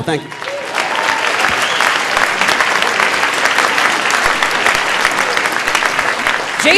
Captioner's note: audience applauding; audience cheering